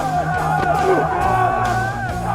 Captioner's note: thuds